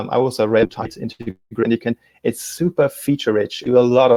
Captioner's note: distortion muffles speaker